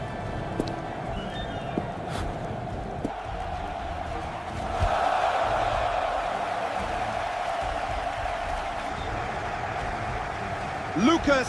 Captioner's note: cheering